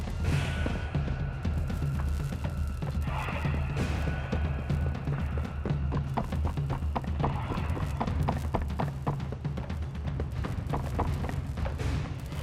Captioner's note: footsteps